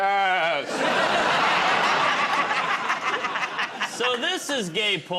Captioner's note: laughter